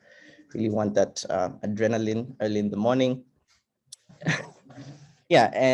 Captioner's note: chuckles